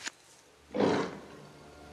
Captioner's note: animal growls